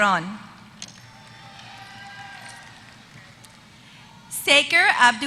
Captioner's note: applause